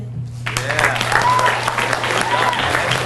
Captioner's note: audience applauds; claps